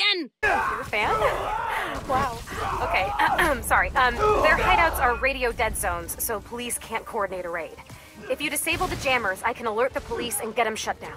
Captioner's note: coughs